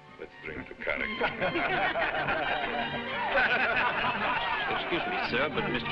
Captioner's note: crowd laughing